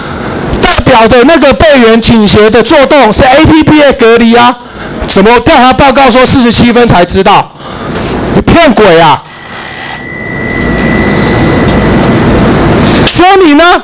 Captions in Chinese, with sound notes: 代表著那個"備援傾斜的作動" 是ATP的隔離啊 怎麼調查報告說47分才知道 你騙鬼啊！ [timer beep] 說明哪！